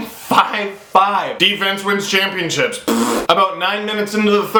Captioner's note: raspberry to indicate sarcasm